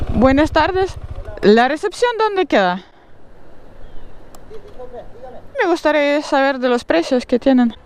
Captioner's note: in Spanish